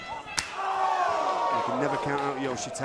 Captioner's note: crowd cheering